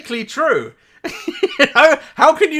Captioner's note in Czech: smích